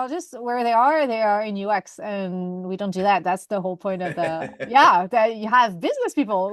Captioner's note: laughter